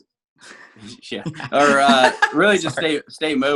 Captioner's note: laughing